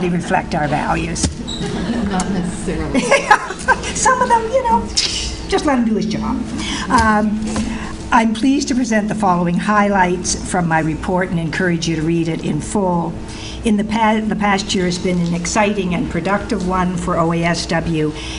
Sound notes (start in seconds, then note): 1.4 not necessarily. Audience Laughing